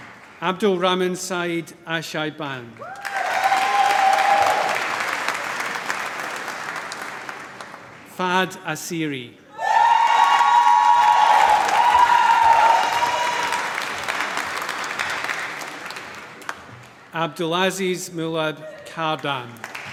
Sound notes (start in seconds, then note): 2.8 applause; 9.5 cheering, applause